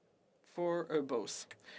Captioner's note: speaking French